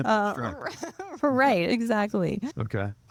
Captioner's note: laughing